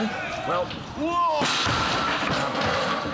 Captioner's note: loud crash